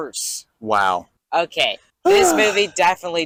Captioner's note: exhausted sigh